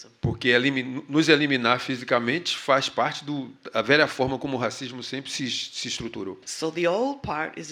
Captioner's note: speaking portuguese